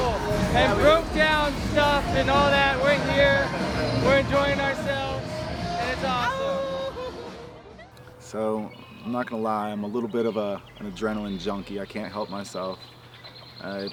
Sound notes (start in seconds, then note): 6.2 howls